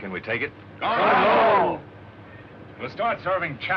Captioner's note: cheering